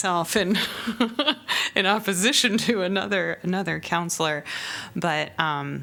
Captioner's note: laughter